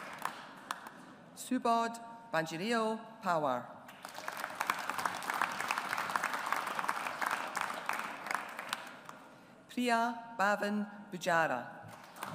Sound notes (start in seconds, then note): 0.0 audience applauds; 3.9 audience applauds